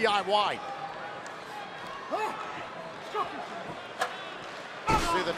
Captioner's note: crowd cheering